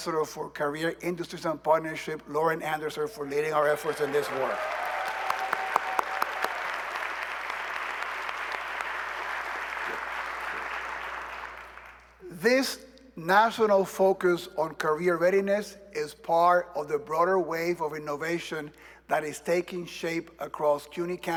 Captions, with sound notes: And I want to give a shout-out to our Vice Chancellor for Career Industries and Partnership, Lauren Andersen, for leading our efforts in this work. [ Cheers and applause ] This national focus on career readiness is part of the broader wave of innovation